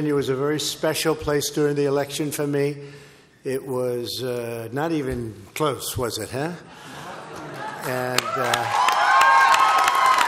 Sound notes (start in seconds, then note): 6.8 laughter and applause